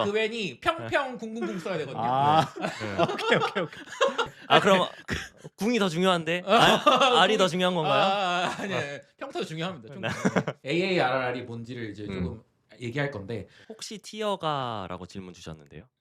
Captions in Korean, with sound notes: 그웬이 평평궁궁궁 써야 되거든요. 오케이. [웃음] 그럼 궁이 더 중요한데 -R이 더 중요한 건가요? -아니요. 평타도 중요합니다. -AARRR이 뭔지를 이제 조금 얘기할 건데. -"혹시 티어가?"라고 질문 주셨는데요.